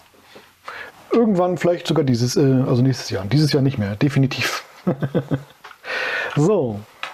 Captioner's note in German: lach